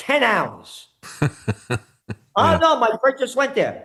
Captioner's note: laughing